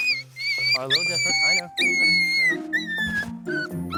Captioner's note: puppy crying